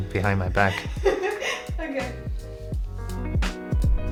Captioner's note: laughing